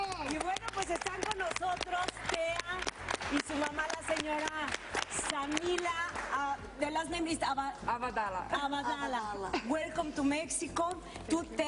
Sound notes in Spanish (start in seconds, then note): 4.1 aplausos